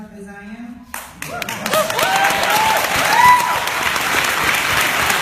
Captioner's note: woots and applause